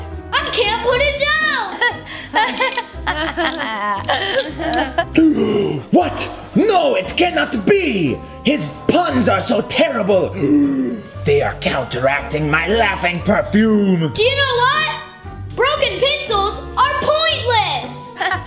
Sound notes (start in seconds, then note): 1.6 laughs; 4.0 gasps